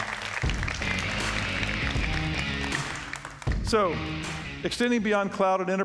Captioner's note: applause